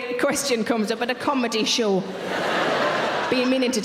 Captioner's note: audience laughing